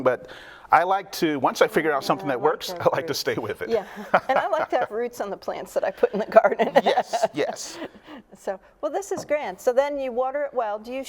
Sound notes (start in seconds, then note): 3.8 chuckles; 6.1 chuckles